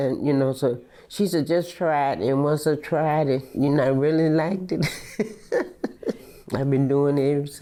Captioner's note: laughs